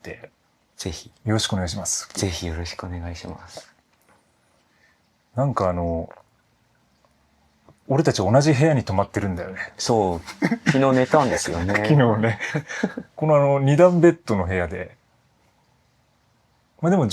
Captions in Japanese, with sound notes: 是非 よろしくお願いします。 是非よろしくお願いします。 なんかあの俺たち同じ部屋に泊まってるんだよね。 [咳払い] そう。昨日寝たんですよね。[笑い] 昨日ね。このあの 2 段ベッドの部屋でま、でも上下ってわけではないけど